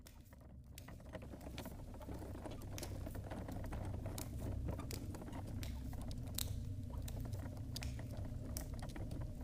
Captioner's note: wheelbarrow trundling over the ground in a cave